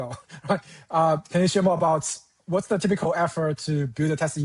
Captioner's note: chuckles